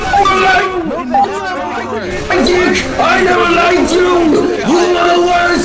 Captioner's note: In TF2's voicechat; In TF2's voicechat